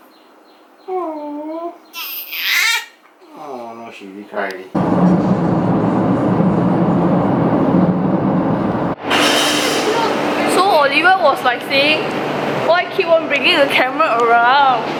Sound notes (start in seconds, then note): 2.2 struggles